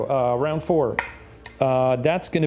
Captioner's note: dice clinks